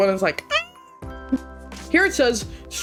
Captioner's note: happy sound